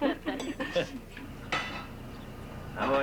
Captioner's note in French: Rires